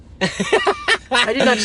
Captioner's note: laughs